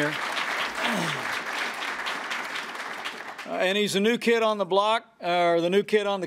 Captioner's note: applause